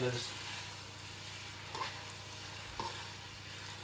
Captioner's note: sizzling